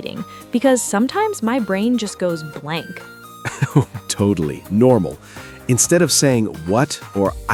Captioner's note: laughs